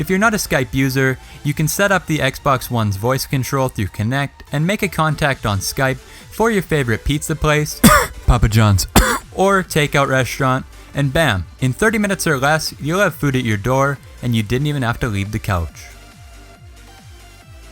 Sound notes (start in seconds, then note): 8.8 Papa Johns COUGH